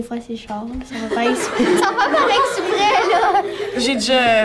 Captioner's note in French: rires